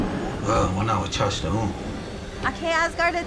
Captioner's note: Iron Man speaks in Lakota; Black Widow speaks in Lakota